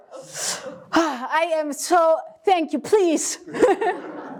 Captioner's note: laugh